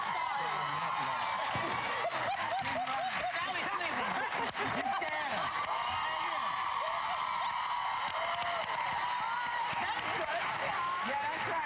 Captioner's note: cheers and applause